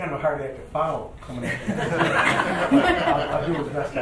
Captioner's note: laughing